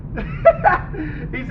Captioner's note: bill laughs hard